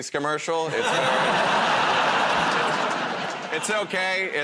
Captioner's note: laughter